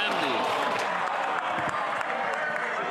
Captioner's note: some Applause